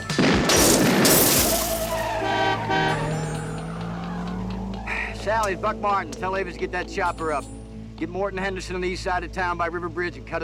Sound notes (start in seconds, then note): 1.6 horn honking